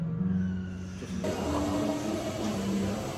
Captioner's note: coffee machines whirr